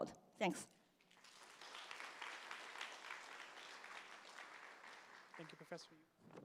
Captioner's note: applause